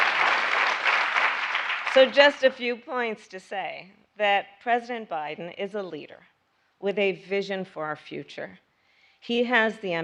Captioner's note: applause